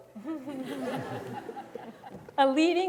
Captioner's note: audience laughing